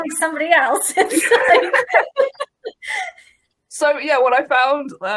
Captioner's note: laughing